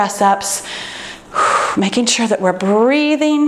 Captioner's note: exhales